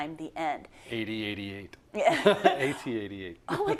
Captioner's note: laugh